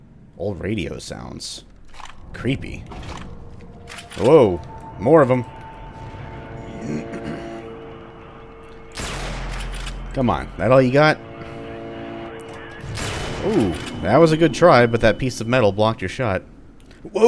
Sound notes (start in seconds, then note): 3.1 "Number disconnected" beeping tones, but dissonant; 6.8 clears throat, chargeup... BAM